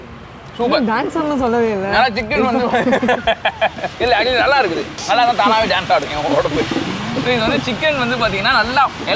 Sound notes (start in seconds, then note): 2.4 laughs